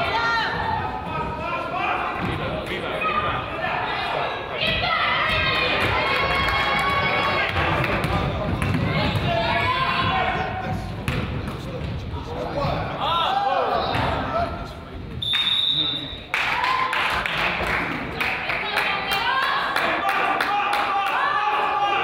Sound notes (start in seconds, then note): 15.2 whistle blows; 15.6 crowd chatters; 16.2 crowd applauds; 16.9 coach yells